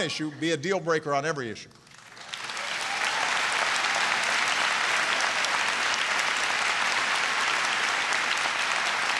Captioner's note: applause